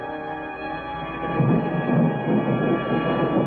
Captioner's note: thunder